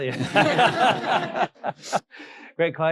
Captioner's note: audience laughing